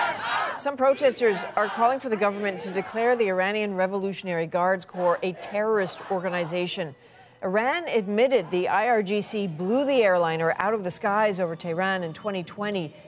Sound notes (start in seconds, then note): 2.5 chanting